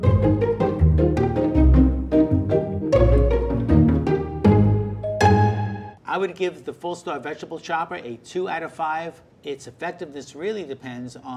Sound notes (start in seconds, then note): 0.0 upbeat music; 5.0 timer dinging